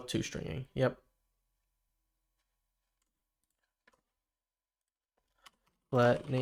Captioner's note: silence